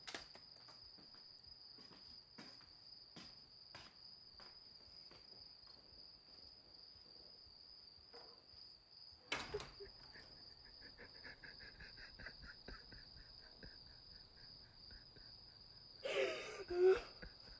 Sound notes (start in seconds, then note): 0.3 crickets chirping; 9.4 cries; 16.0 sobs, muffled